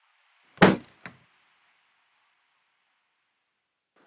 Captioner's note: door slams